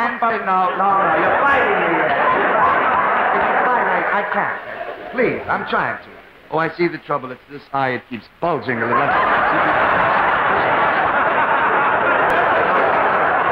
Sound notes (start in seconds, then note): 8.5 audience laughing